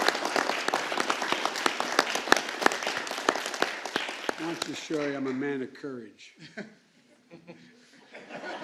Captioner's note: applause